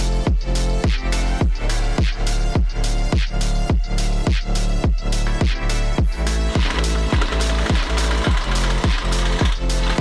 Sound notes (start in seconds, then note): 6.2 drilling